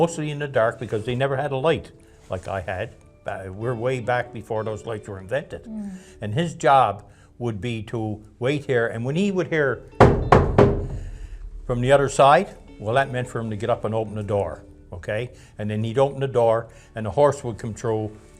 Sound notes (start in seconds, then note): 10.0 knocking